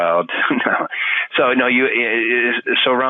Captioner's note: laughing